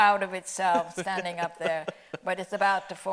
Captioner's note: laughing